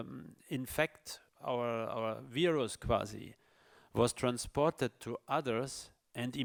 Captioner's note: speaks in foreign language